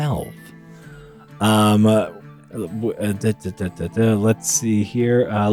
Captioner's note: hesitation noises